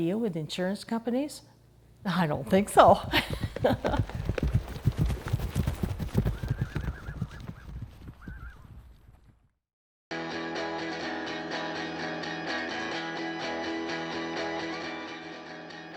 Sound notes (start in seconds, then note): 2.8 horses galloping and neighing; 10.2 upbeat music